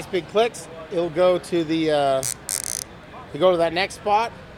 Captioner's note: tie buzzes